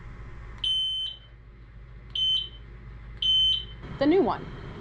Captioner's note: three beeps